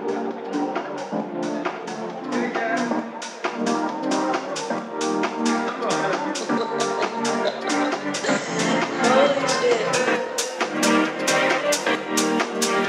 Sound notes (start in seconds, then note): 8.2 laughs